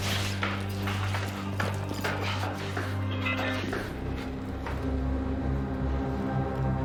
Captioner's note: footsteps thudding; suspenseful music